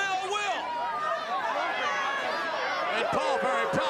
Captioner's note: crowd chattering